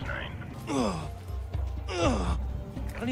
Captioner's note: groans sexually